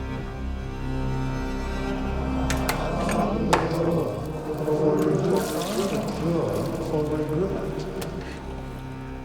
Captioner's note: Jim, echoing